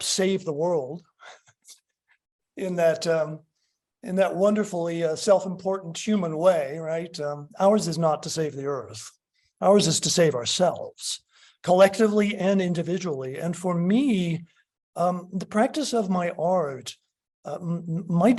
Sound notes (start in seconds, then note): 1.1 laughs